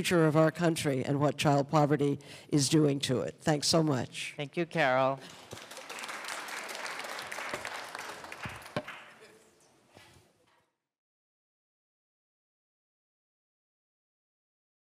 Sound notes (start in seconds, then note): 5.2 applause